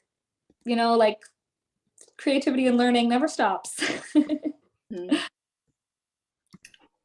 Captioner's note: chuckles